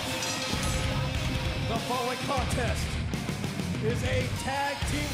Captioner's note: bell ringing